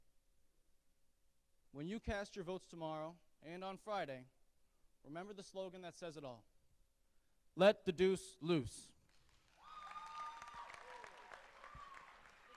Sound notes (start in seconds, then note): 9.3 loud applause; 9.5 cheering